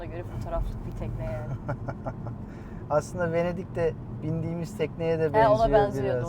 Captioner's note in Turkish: kahkaha